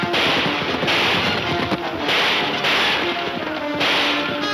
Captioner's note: gunshots banging